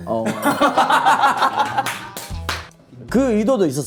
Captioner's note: laughing